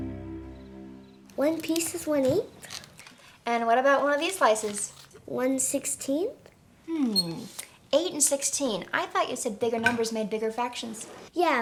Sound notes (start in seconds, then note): 0.7 birds chirping